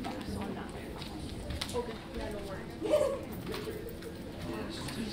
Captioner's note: audience chattering